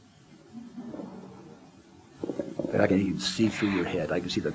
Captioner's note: audience laughter